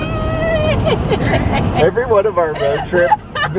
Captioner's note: laughing